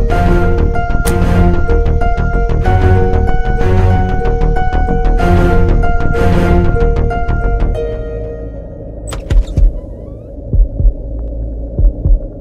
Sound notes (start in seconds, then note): 0.9 Car door closes; 9.0 Door opens